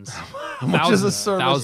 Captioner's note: laugher